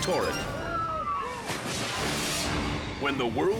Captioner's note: air whooshes